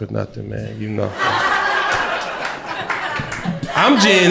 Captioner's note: crowd laughter